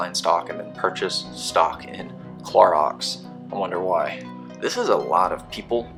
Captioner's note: sarcastically